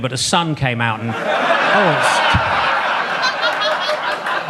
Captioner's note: audience laughs